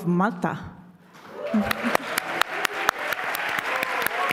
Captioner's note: applause